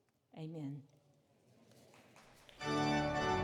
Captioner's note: applause